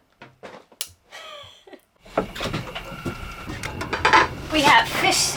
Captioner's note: lighter clicks; laughs